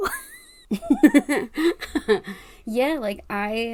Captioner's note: laugh